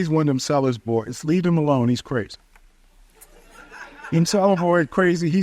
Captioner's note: audience chuckles